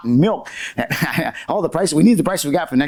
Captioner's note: laughs